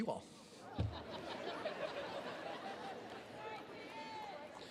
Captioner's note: attendees laughing